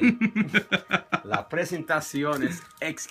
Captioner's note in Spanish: risa